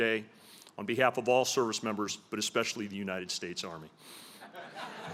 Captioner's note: laughter